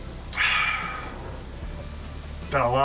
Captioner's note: sighs